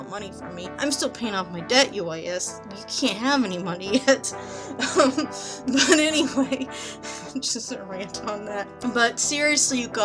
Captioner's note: laughs